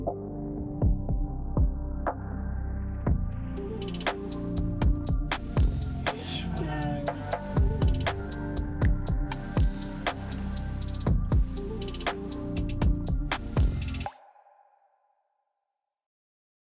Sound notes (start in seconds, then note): none